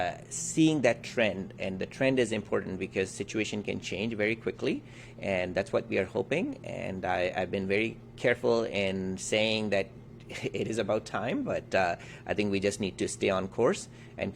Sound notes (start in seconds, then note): 10.2 chuckles